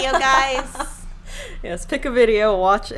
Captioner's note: laughing